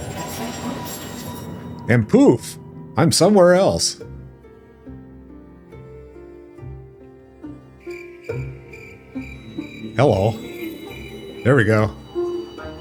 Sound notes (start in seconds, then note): 7.4 birds chirping